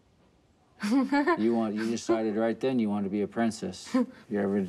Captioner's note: laughs